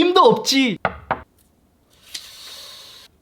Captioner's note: knock! Knock!